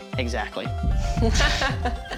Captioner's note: laughing